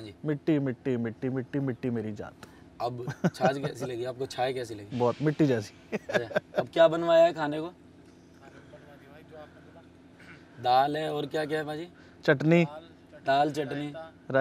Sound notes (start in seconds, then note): 5.8 Laughing